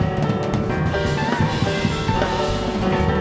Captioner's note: none